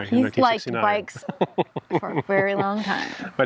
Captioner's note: laughing